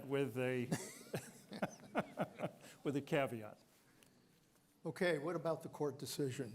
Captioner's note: laughter